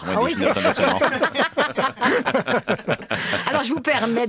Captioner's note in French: rires